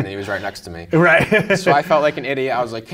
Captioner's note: laughing